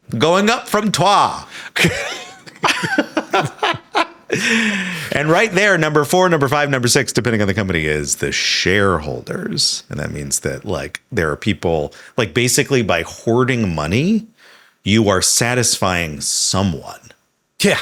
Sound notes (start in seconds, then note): 1.7 Sam and Hank chuckling